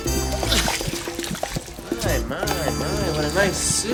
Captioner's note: groans